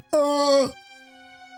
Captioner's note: groans